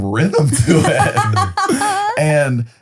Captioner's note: laughing